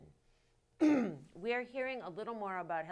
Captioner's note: clears throat